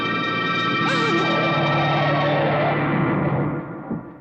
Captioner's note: tires squealing